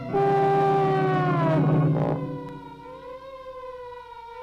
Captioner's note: sirens wailing